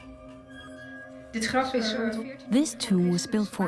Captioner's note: in Dutch dubbed n English